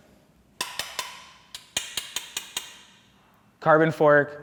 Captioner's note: metal clanging